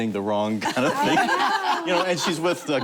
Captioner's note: laughter